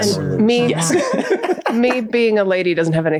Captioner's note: both laughing